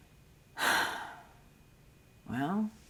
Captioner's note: sighing